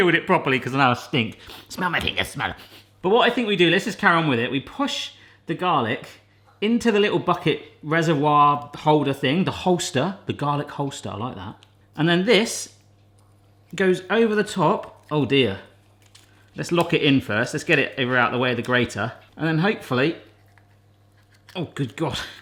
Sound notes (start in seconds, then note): 1.8 in funny voice; 3.2 in normal voice